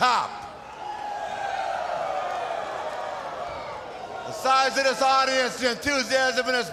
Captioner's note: crowd cheering